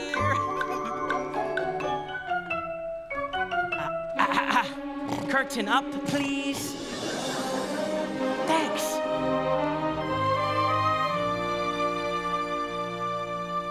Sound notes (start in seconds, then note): 0.2 light bouncy music; 5.0 clears throat; 9.8 majestic orchestral music